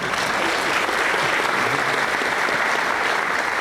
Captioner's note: applause